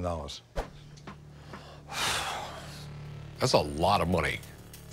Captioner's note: sighs